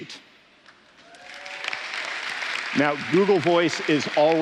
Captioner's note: applause